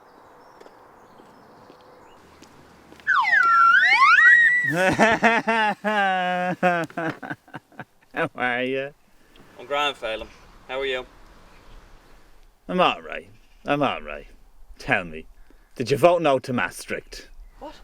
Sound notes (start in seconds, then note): 3.0 whistle blow; 4.2 Felim Laughs